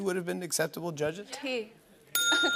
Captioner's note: ding!